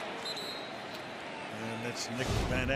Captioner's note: whistle blowing